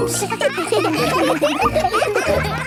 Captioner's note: children laughing